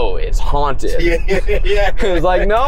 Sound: laughs

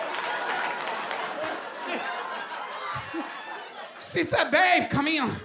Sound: laughter

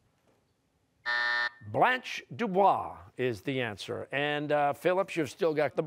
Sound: buzzer

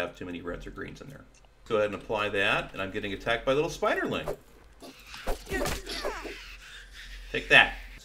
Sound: spiderling dying noises

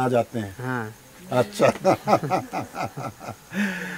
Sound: laughs

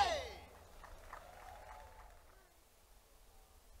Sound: crowd clapping

